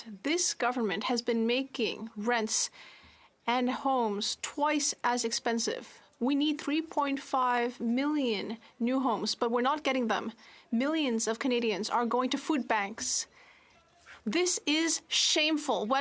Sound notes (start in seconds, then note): 2.6 speaking French